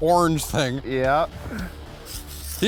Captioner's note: voiceover